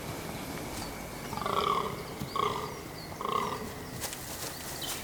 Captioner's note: deer grunts